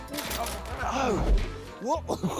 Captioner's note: groans